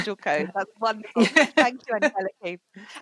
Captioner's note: laughs